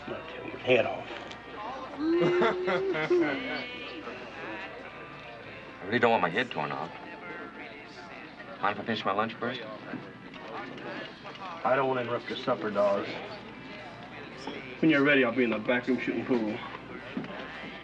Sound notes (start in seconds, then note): 2.1 laughter